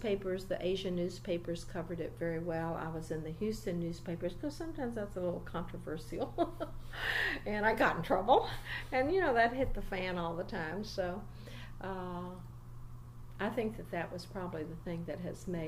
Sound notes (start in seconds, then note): 6.9 laughs